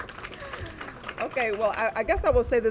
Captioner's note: applause